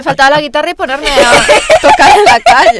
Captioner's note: laughing